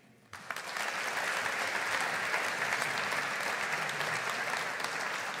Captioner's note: audience applauding